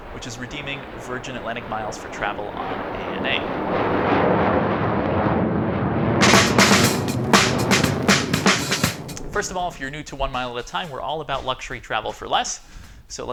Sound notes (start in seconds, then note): 3.2 airplane engine roaring; 6.2 upbeat music